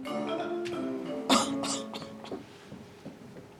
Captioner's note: coughs